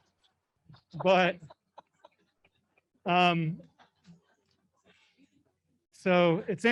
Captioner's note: laughing